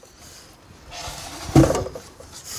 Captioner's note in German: Klackern